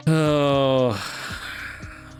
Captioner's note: sighs